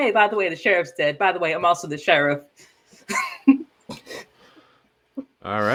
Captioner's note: genuinely gleeful laugh